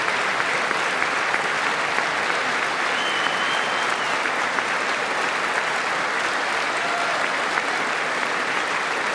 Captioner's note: applause